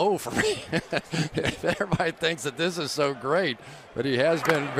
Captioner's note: laughs